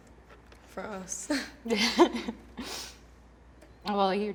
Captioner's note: laughs